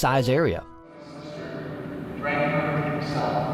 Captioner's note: voice echoing